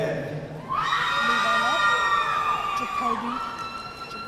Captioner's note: audience cheering